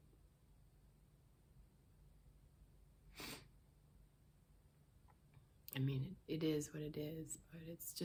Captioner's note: sniffs